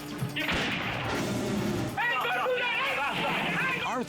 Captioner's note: gunshot rings